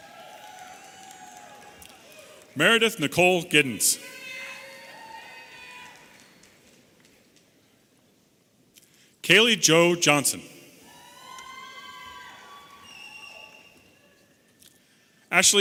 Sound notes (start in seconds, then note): 0.0 audience applauding and cheering; 4.1 audience applauding and cheering; 10.9 audience applauding and cheering